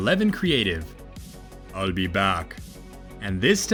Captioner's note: In the style of Arnold Schwartzenegger